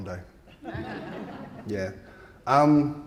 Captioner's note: audience laughing